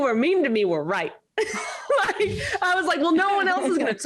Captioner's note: all laugh